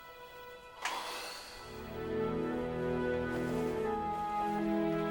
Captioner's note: Bill sighs